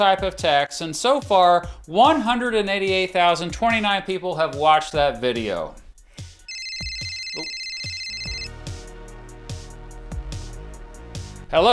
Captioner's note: on phone